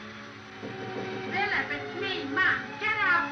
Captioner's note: knock on door